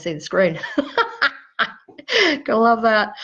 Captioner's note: laughing